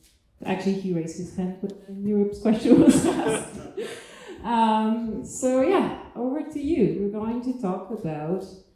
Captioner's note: laughs